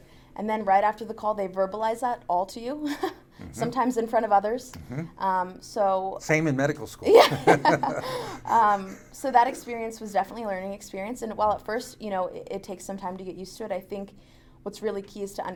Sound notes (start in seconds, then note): 3.4 laughs; 7.1 laughing